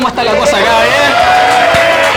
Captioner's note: cheers